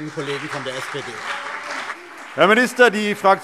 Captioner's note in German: Beifall